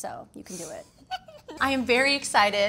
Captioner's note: laughs